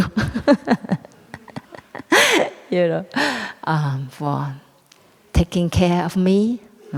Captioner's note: laughs